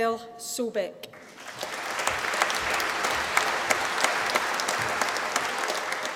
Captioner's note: applause